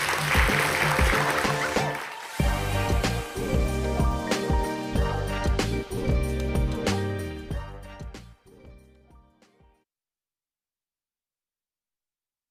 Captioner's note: applause